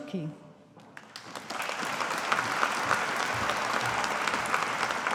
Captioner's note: audience applauding